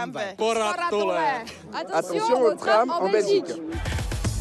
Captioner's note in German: Sie sprechen finnisch und französisch; Dynamische Musik